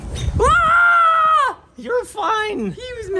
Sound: shouts

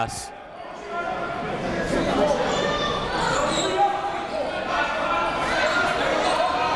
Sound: crowd talking; coaches yelling

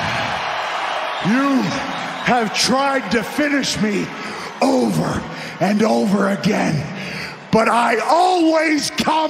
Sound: cheers and applause

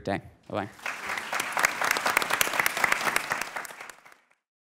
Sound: audience and panelists applaud

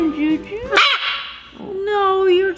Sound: bird caws loudly

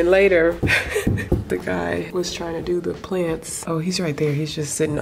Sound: chuckles

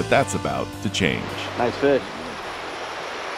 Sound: water flowing

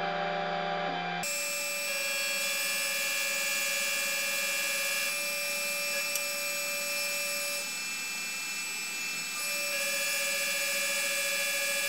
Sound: motors

